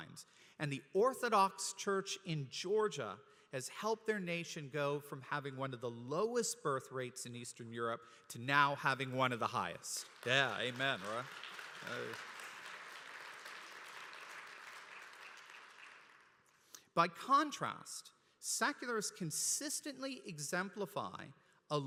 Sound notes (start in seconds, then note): 9.9 applause